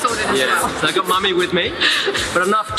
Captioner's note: laughing